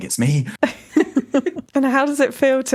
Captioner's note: both laugh